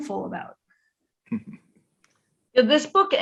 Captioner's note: chuckles